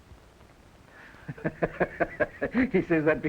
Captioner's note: Regis laughs